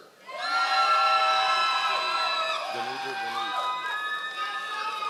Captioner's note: members of the audience cheering